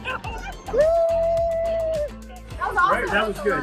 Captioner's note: cheering